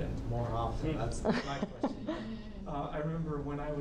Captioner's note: laughing